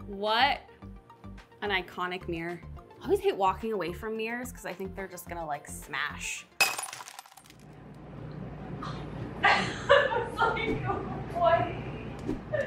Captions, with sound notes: What an iconic mirror. Always hate walking away from mirrors, 'cause I think they're just gonna smash. (glass shattering) I was like, why?